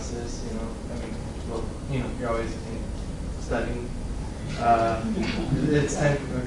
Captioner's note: laughing